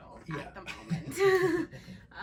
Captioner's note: laughs